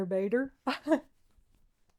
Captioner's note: laughs